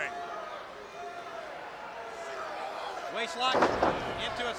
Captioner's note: crowd chattering